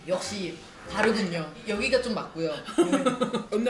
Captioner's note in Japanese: 笑い